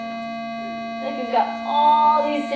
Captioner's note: tone